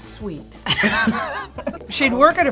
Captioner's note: both laugh